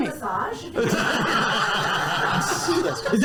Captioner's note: laughter